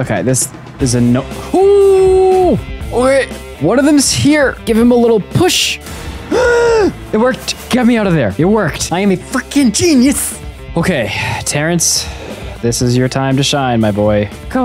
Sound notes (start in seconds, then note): 5.8 gasp